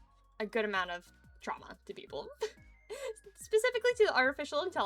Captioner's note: giggle